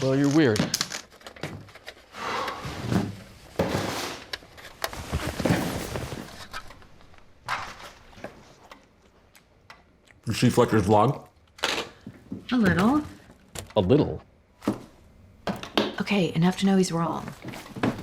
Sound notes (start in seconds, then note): 2.4 hawk sighs